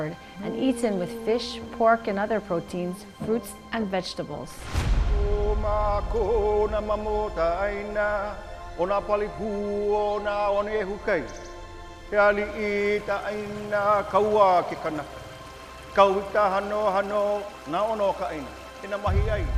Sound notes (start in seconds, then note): 5.0 chanting in Hawaiian